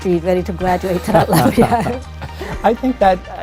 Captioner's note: laughing